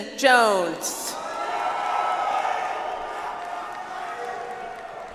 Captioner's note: audience applauds